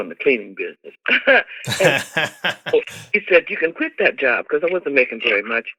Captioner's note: laughter